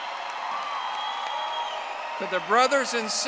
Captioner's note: audience applauding